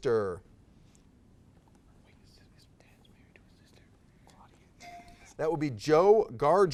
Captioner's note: timer dings; whispered conferring